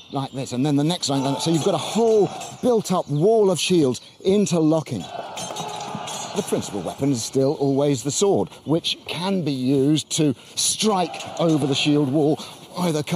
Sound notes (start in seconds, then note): 5.0 men shouting; 5.2 metal clanging